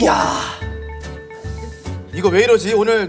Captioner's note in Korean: 쓰읍